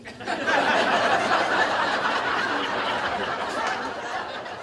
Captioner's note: laughter